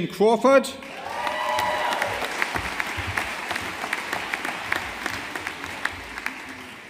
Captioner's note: audience applauding